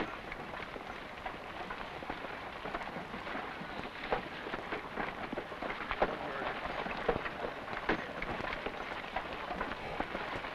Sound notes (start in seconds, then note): 6.0 carts rattling